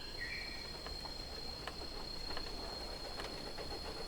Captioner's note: birds singing